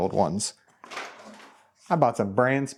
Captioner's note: belts clatter